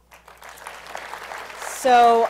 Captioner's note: applause